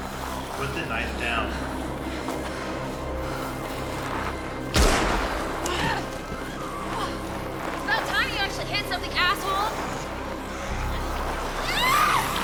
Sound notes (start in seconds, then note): 4.7 gun shot; 11.6 Maggie screaming; 11.9 zombies snarling